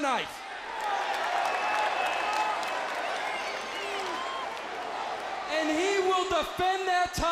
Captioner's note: crowd cheering